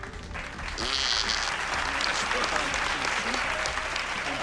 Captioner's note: imitates raspberry